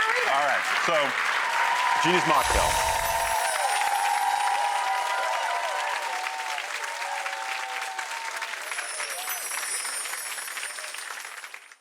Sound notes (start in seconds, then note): 2.3 bells chime; 2.6 audience cheers